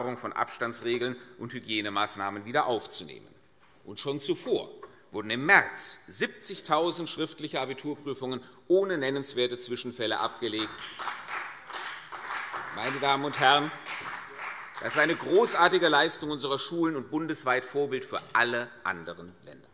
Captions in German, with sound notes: von Abstandsregeln und Hygienemaßnahmen wieder aufzunehmen. Schon zuvor wurden im März 70.000 schriftliche Abiturprüfungen ohne nennenswerte Zwischenfälle abgelegt. [Beifall CDU und BÜNDNIS 90/DIE GRÜNEN] Meine Damen und Herren, das ist eine großartige Leistung unserer Schulen und bundesweit ein Vorbild für alle anderen Länder.